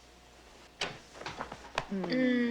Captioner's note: door opens